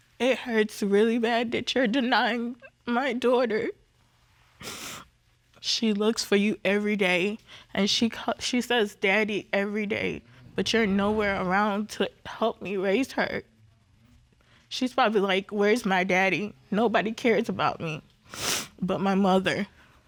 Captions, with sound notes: It hurts really bad that you're denying my daughter. [sniffles] She looks for you every day. And she says "Daddy" every day, but you're nowhere around to help me raise her. She's probably like, "Where's my daddy? Nobody cares about me..." [sniffles] "...but my mother."